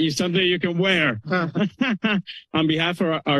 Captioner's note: laughter